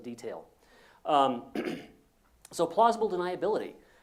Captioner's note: cough